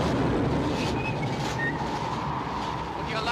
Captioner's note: Harry whistles